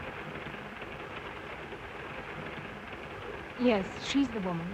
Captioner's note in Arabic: صوت خشخشة القطار